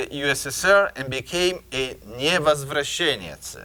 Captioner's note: speaking in a foreign language